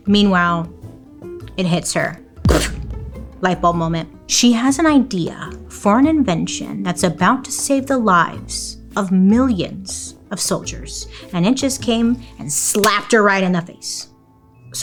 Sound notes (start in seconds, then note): 2.3 light booming